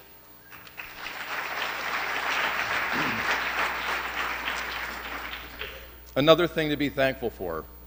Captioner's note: applause